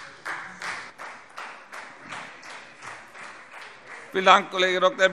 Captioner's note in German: Beifall Freie Demokraten